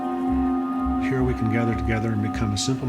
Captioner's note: voiceover